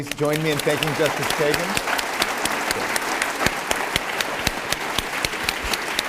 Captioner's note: applause